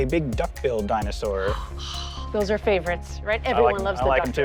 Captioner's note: gasps